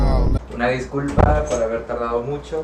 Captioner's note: door slam